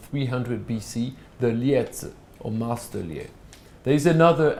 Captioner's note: non-english speech